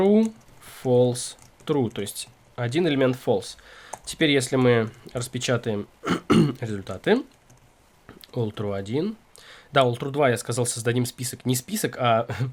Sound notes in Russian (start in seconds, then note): 6.0 откашливается; 6.0 кашель